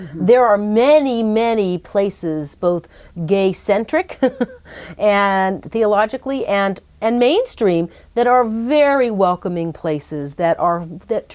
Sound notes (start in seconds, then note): 4.2 laughs